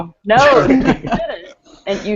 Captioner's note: laughter